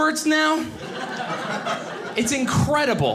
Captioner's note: audience laughing